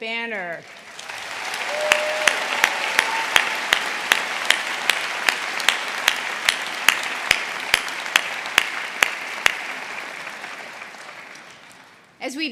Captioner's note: applause